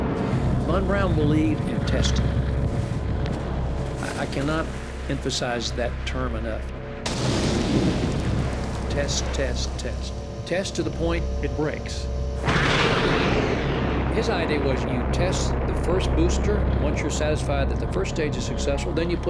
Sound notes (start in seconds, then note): 7.0 rockets fire; 12.1 thrusters roaring